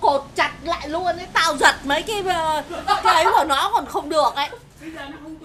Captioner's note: laugh